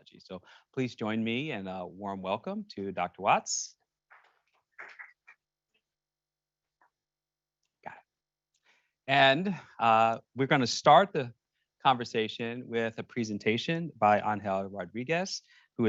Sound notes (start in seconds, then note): 4.5 audience applauding